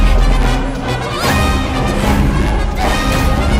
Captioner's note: shouting, panting